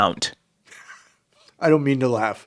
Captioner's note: laughs